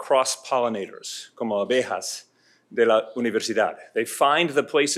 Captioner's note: non-english speech